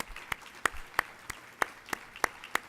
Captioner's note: applauding